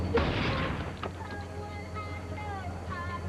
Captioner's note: gunshot